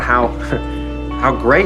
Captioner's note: Max laughs